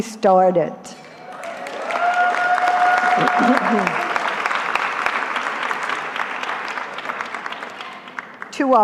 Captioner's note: applause